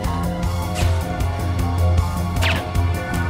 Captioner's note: gun fires; dart whooshes; gun fires